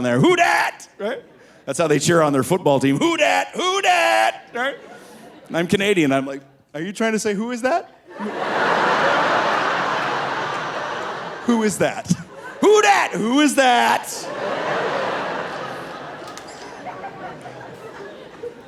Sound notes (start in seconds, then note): 8.2 audience laughing; 12.2 laughs; 14.7 audience laughing